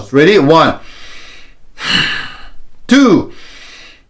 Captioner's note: breaths deeply